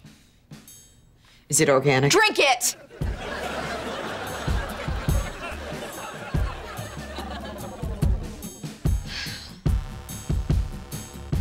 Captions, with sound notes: - Is it organic? - Drink it! [sighing]